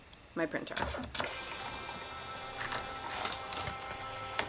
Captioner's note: printer humming